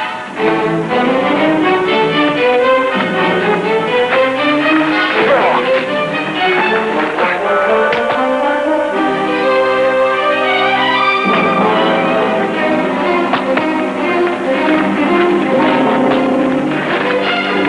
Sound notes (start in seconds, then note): 5.2 grunting; 7.7 smack; 12.9 hooves clopping